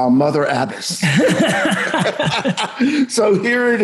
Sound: both laughing

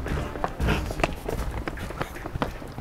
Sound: panting

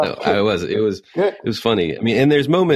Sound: laughs

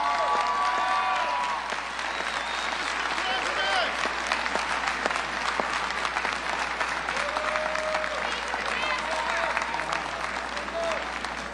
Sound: applause

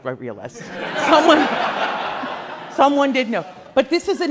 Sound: class laughs

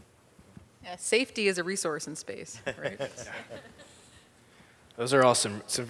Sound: panel laughs

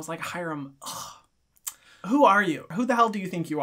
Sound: scoffs

